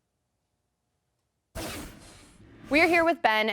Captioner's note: transition scrapes